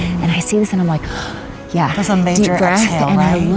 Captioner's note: breathes deeply